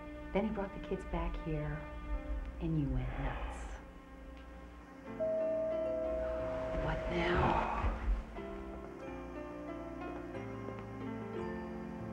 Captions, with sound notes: Then he brought the kids back here and you went nuts. (doorbell rings) What now? (Reg sighs)